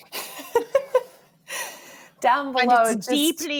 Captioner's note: all laughing